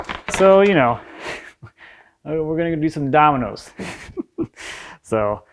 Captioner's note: laughs